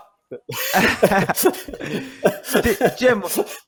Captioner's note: laughing